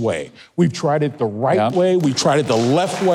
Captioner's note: crowd applauds